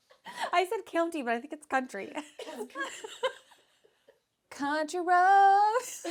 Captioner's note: laughs